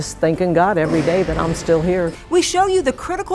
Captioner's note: equipment clanking